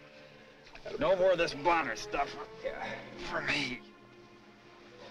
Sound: groans

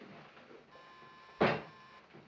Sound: doorbell buzzes

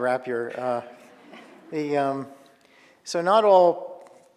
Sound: audience laughing

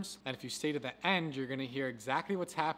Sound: none

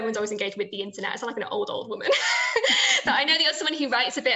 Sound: she laughs

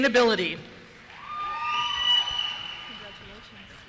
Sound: cheers; voiceover

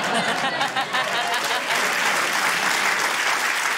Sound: laughter; applause

